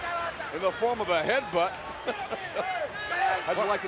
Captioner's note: laughs